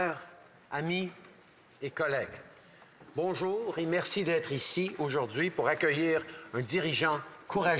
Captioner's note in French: voix de l'interprète